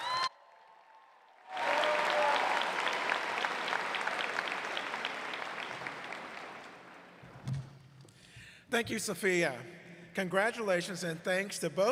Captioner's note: cheers and applause